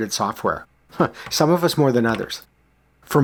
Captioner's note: chuckles